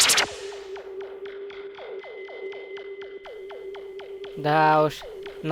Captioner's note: rustle of teleportation; various sounds of the operating device